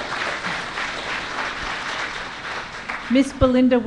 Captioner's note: applause